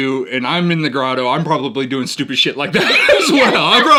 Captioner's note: laughs